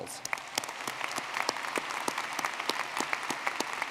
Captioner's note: audience clapping